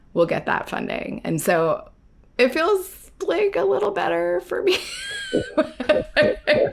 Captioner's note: laughs